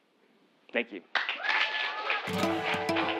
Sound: applause

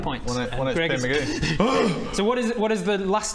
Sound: painful gasp

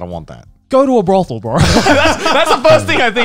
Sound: laughing

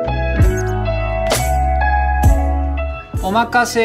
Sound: text squeaking

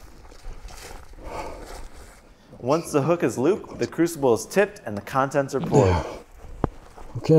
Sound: grunt

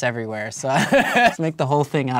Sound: laughs

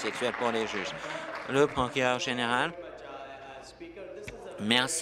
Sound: applause

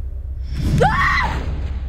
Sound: screams

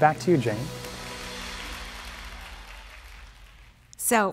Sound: audience applauding

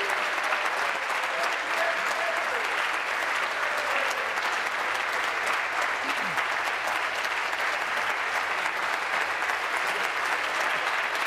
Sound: applause

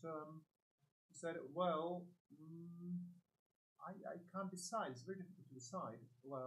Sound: hums

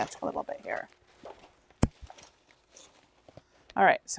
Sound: papers shuffling

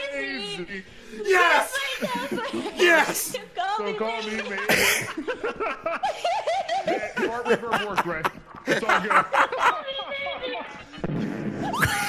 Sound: distant fart noise

